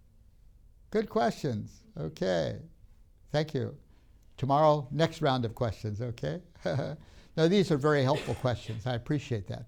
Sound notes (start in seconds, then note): 8.0 laughs